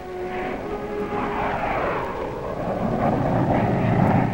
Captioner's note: plane droning